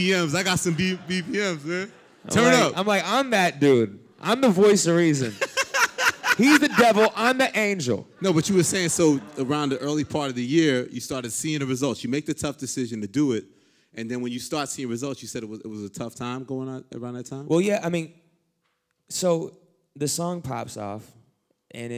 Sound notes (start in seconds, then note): 5.1 laughter